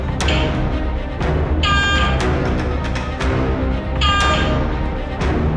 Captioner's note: sound of the beacon